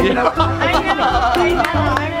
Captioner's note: laughs